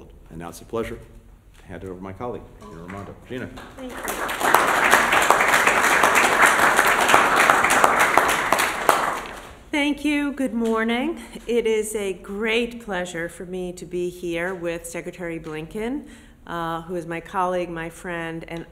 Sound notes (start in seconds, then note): 6.6 applause